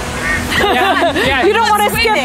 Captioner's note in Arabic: كريستال يضحك